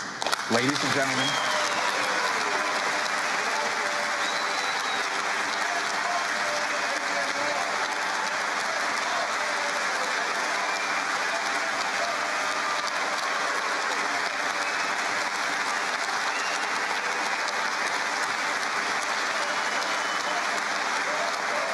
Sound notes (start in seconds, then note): 4.6 applause; 9.7 cheering and Applause